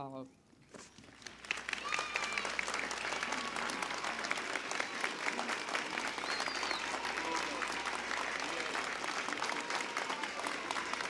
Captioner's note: applause and cheering